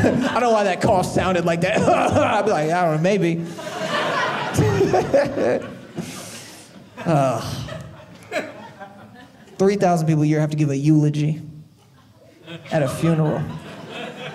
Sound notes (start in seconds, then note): 1.6 cough sound; 3.5 audience laughing